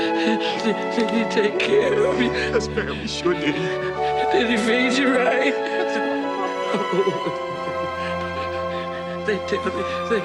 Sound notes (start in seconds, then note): 6.1 heavy sobbing; 8.4 bright music